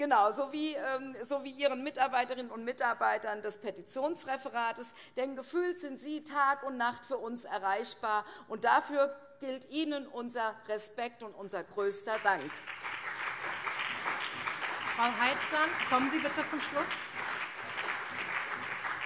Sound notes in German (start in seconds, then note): 12.2 Allgemeiner Beifall